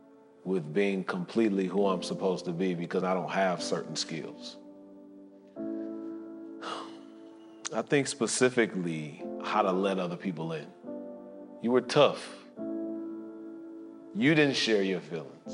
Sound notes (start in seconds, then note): 6.6 sighs